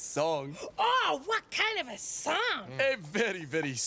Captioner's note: gasps